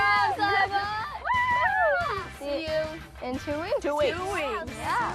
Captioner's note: all cheer